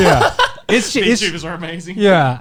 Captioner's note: laughs